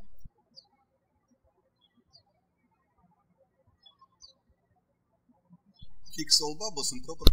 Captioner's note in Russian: птички щебечут